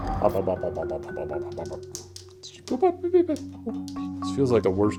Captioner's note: humming